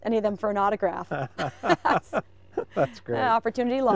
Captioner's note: laughing